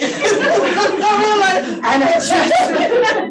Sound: audience laughing

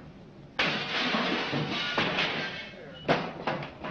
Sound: glass breaking

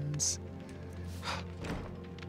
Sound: huff

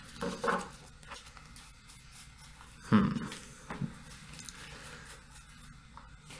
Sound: awkward silence

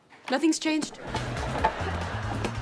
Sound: laughing

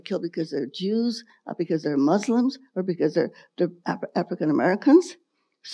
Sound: none

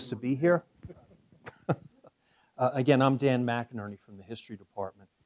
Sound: laugh

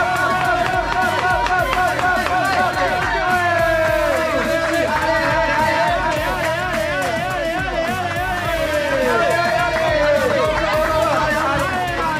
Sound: applause

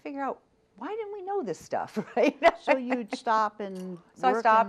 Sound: laughs

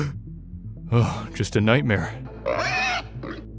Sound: pig Sounds

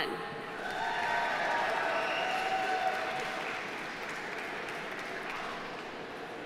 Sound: audience cheering; audience applauding

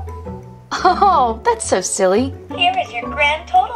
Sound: voiceover

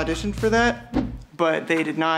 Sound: whooshing

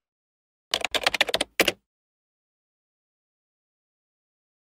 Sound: keyboard keys clacking

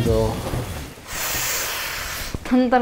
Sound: exhaling

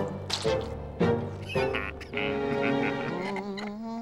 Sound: chuckles; humming

